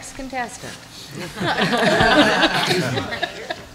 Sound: laughter

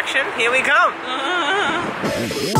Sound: nervous noise

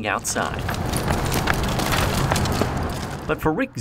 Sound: loud rustling

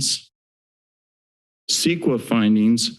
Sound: silence

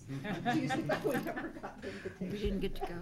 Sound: laughing

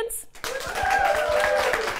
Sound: cheers and Applause

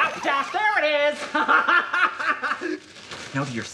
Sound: laughing crazily

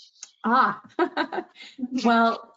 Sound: laughs

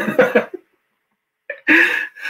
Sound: laughs; pause

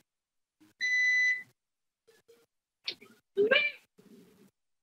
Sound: warning bell rings

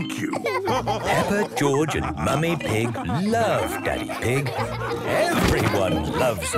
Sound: all laughing

